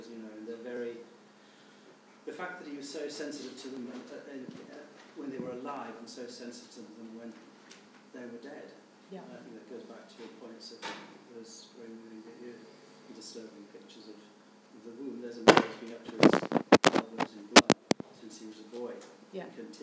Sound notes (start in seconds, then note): 10.6 speaking faintly; 15.4 microphone hissing